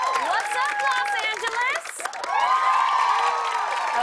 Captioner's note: cheers and applause